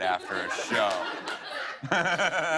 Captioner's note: laughter